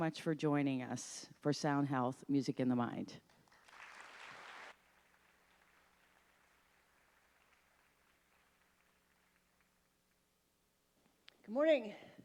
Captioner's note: applause